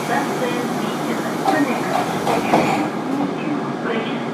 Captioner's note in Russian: закрытие дверей